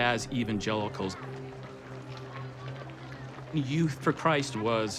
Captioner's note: chatter